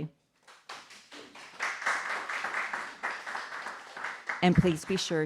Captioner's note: audience applauding